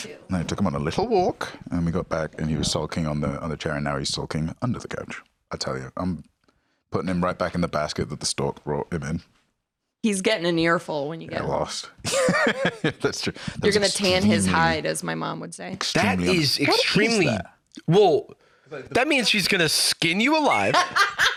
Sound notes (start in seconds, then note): 12.0 laughs